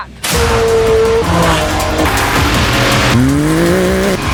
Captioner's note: engines roaring